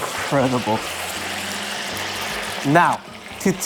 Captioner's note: sizzling sound